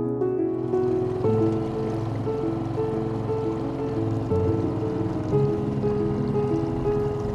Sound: gentle piano music; boat engine rumbling; water splashing

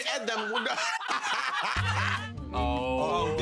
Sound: laughter

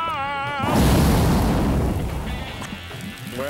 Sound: exploding

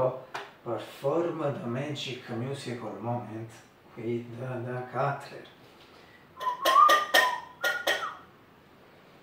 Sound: whistle

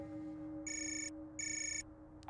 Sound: phone ringing

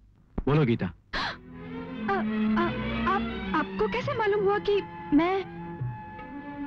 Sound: gasps

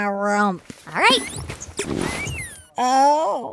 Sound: soundbite of squeak

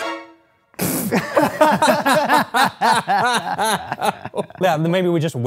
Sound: laughter

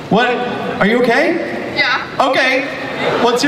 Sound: voiceover

